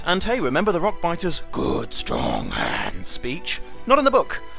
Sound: imitates Rockbiter

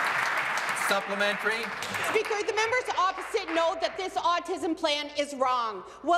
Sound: applause

